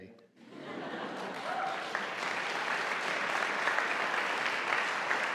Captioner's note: audience applauding